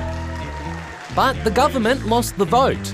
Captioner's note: cheering and applause